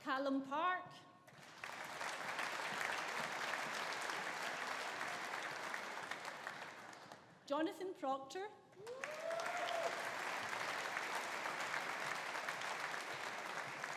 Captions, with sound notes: Calum Park. (AUDIENCE APPLAUDING) Jonathan Proctor. (AUDIENCE APPLAUDING) (AUDIENCE CHEERING)